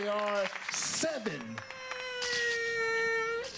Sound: sobbing

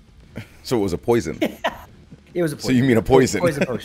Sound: laugh; laugh

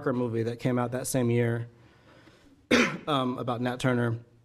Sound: coughing

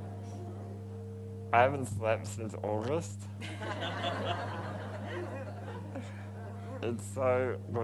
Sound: crowd laughs

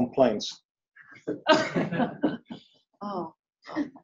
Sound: laughter

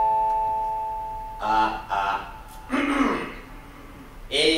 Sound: clears throat

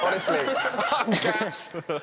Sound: laughing

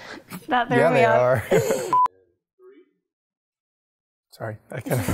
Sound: laughter

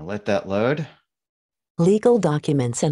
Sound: automated Voice

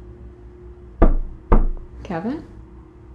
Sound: knock, knock

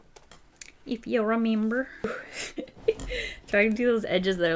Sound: laughs

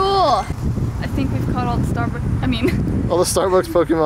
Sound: laughs

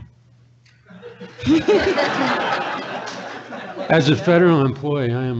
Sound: audience laughs

